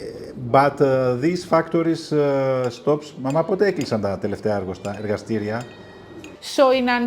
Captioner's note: non-english speech